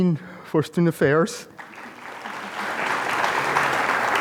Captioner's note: applause